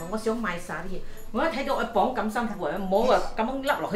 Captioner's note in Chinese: 廣東話